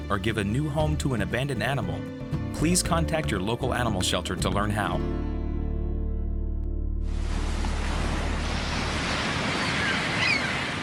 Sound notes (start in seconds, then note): 7.2 waves crashing